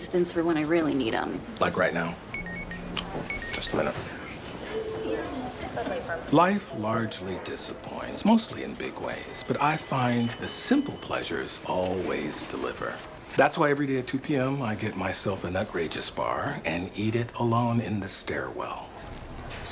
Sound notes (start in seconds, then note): 3.1 pager beeps